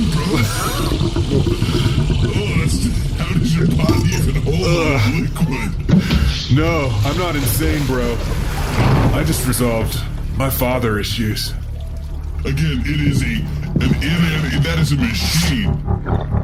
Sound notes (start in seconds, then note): 6.6 a slow rumble underscores